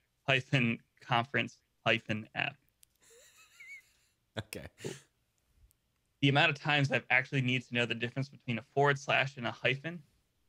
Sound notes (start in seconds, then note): 3.0 laughing